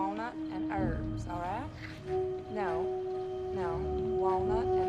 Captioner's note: Iris chattering on phone